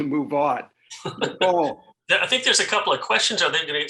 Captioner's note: laughs